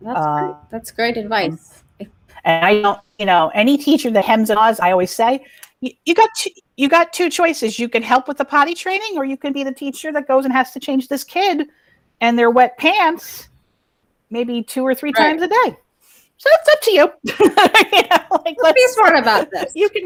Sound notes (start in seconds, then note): 17.0 laughs